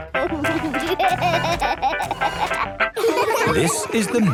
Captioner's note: upbeat music; giggling